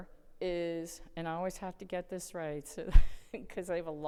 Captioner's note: chuckles